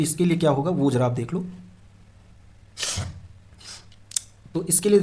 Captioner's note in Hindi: नाक से की जाने वाली आवाज़